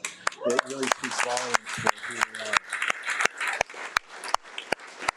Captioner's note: audience applauding